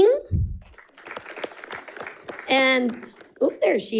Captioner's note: audience applauding